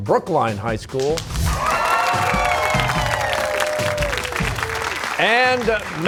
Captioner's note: cheers and applause